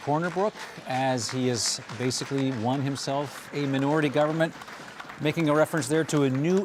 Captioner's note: cheers and applause